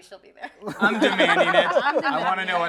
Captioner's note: group laughs